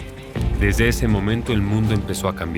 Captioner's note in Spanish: Sonido al poner en directo